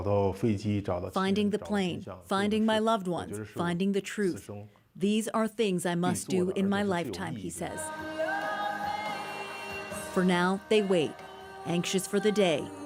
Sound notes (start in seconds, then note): 3.2 speaking alternate language